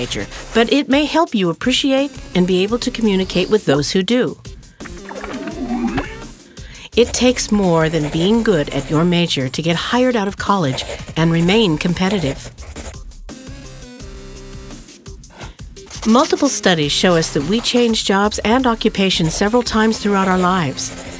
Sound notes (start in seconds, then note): 4.8 computer noises